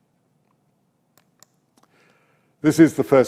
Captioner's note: mouse clicks